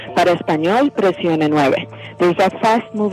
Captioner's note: speaks in foreign language